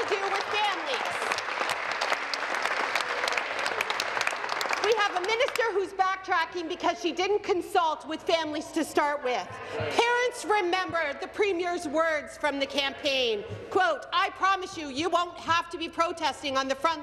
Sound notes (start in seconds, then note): 5.0 some Applause